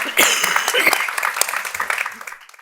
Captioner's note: audience applauding; coughing